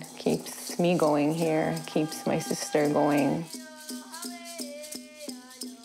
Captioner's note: speaking native language